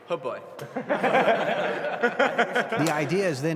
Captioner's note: team laughing